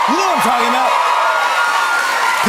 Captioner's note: cheers and applause